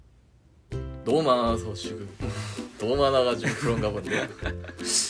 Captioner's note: laughs